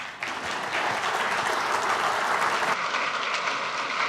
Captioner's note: applause